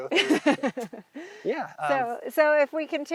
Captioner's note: laughing loudly